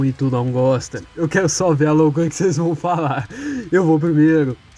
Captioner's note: inhale